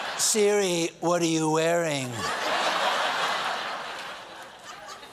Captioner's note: laughter; laughter